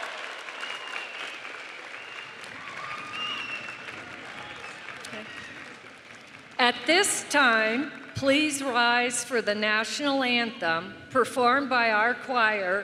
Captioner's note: cheering and applause